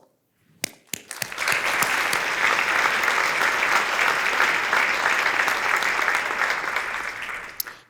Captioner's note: applause